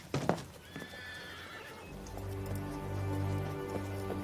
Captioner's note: horse neighing from a distance; tense music